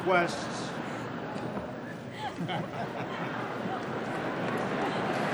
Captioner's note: laughter